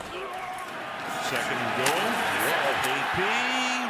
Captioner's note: cheering